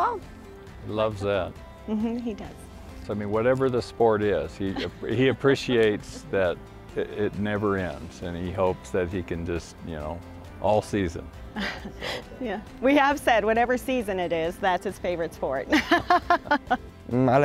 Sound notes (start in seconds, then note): 11.5 snickering; 15.7 laughing